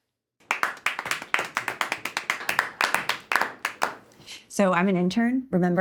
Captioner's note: clapping